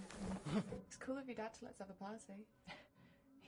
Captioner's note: grunts in surprise